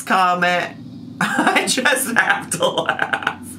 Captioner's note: laughing